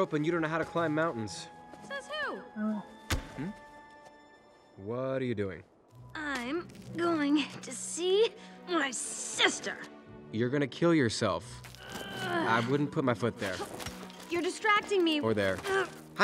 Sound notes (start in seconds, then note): 11.8 Anna groans